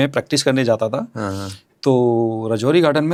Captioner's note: nasal voice